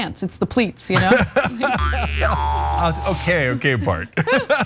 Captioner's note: laugh